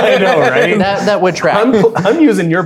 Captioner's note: players laughing